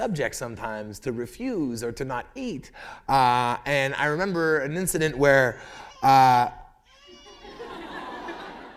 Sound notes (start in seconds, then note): 5.6 baby crying; 7.2 laughter